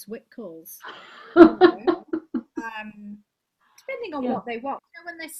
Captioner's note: laughs